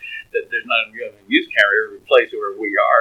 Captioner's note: laughs